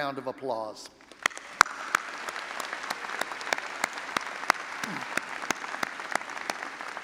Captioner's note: all applauding and audience cheering